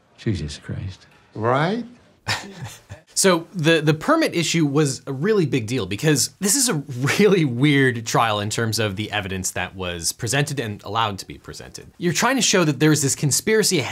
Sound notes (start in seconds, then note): 2.2 chuckles